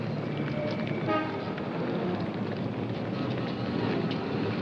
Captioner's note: car horn honking